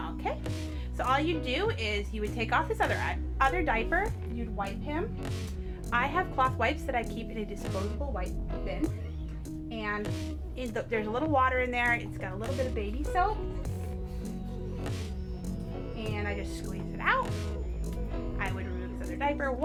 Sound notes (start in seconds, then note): none